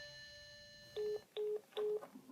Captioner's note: phone hang up tone